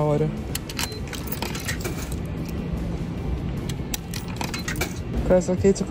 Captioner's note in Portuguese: bipes de máquina